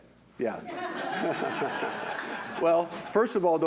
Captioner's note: audience laughing